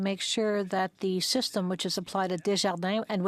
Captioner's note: speaking French